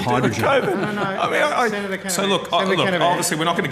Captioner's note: laughter